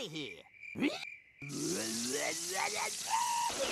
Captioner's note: snarling